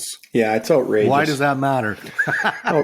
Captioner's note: laughs